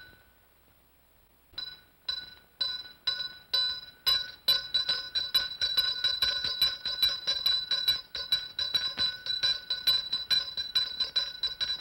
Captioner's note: bell rings once; ringing intensifies